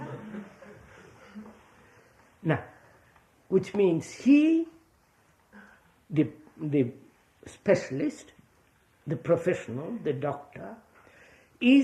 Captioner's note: laughter